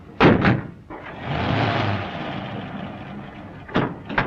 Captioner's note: engine rumbling